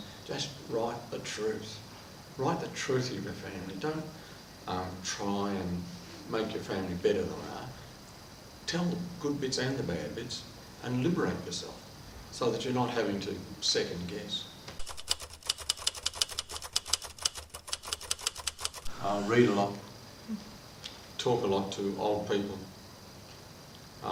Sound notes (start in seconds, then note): 14.8 typewriter clicks